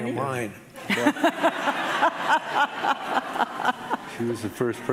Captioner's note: laughing